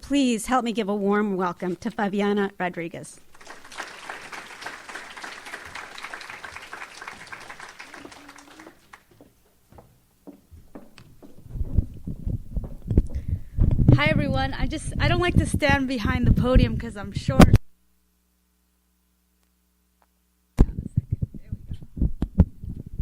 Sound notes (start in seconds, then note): 3.3 audience applauds; 17.6 silence